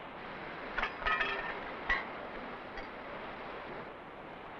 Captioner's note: metal clattering